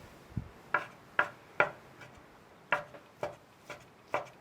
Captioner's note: knife chopping